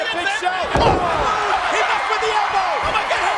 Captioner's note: body thudding